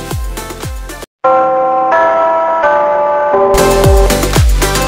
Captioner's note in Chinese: 鐘聲